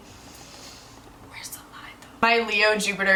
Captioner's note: whispering